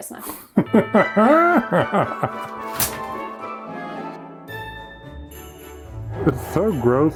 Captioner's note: laughing; jaunty music